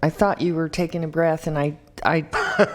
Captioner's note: laughter